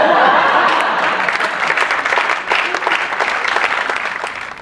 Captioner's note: applause